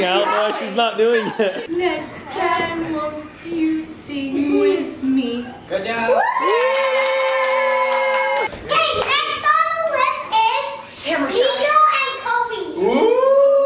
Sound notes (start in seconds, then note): 6.0 all cheering